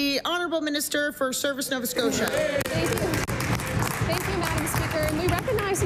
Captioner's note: applause